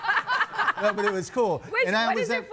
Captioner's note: guests laughing